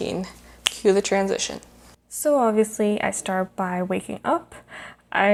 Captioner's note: finger snap